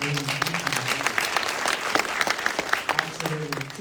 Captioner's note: applause